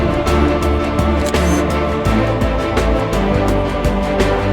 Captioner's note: camera shutter; upbeat music